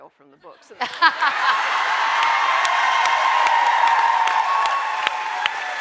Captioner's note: audience laughing and cheering